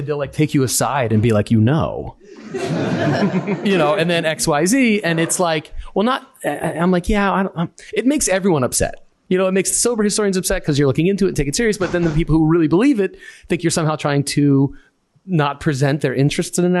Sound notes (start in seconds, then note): 2.2 laughter